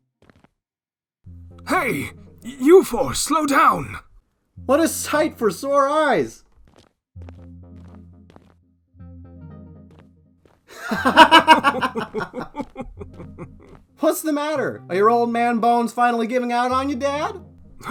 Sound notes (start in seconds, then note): 10.7 both Laugh